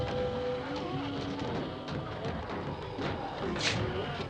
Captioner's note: ghouls groaning